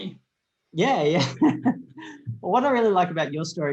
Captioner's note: laughs